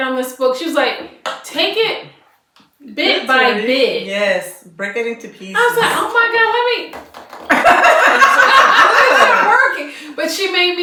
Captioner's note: laughter